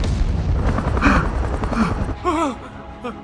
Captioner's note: panting; exclaiming in relief